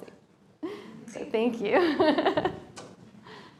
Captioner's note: laughter